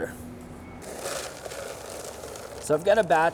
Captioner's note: peanuts rattling